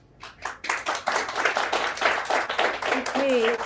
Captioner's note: applause